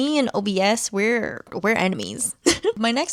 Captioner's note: laughs